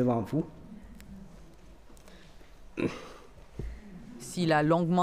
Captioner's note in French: raclement de gorge